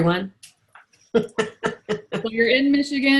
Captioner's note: laughs